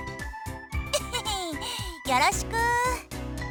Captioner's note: chuckle